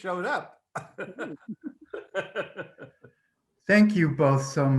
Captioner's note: laughter